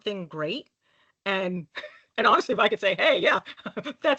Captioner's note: laughing